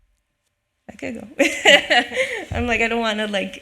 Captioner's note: laughs